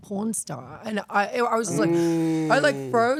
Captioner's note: gasping